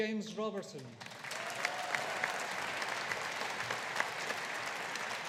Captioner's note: audience applauding